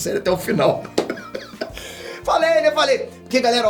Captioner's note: bursting into laughter